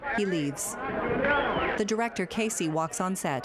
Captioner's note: sharp whistling